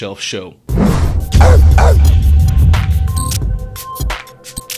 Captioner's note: dog barking